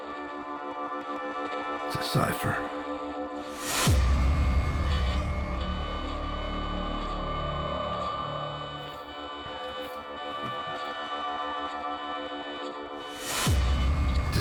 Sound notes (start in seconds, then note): 4.0 dramatic bang; 6.5 tense suspenseful music; 13.4 dramatic bang